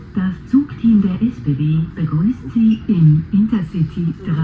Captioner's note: automated announcement